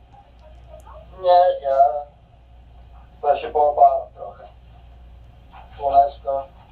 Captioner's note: cameraperson speaking foreign language